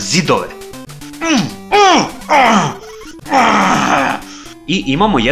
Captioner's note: an angry moan as he dies